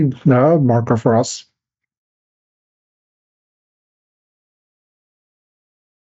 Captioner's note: silence